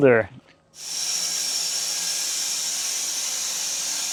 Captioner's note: saw whirring